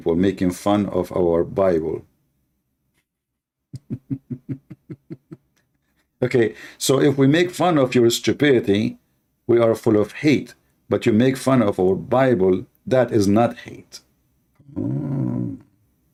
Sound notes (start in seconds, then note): 3.7 Ketawa